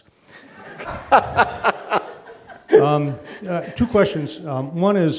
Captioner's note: laughs